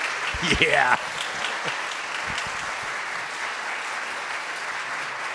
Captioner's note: audience applauding